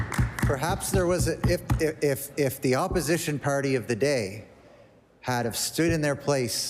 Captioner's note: applause